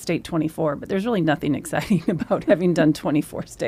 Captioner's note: laughs